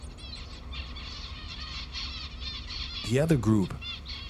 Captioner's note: birds warble